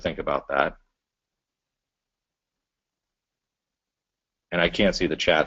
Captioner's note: pause